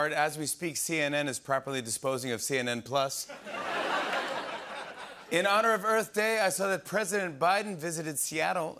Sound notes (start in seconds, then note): 3.2 laughter